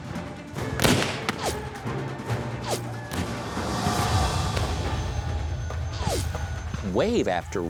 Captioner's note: gunfire